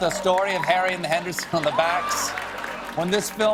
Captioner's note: applause